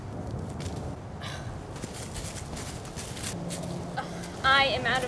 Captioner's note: Helena sighs